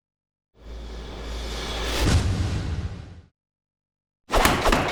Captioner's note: whoosh